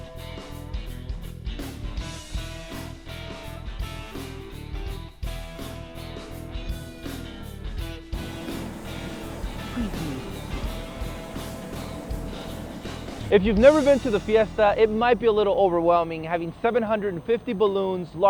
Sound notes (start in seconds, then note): 8.1 fire blowing